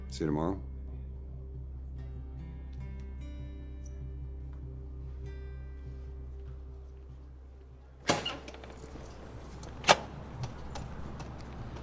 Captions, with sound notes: See you tomorrow? (door creaks)